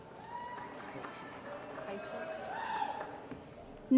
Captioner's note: applause & Cheering